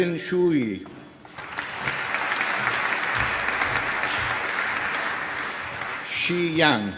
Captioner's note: applause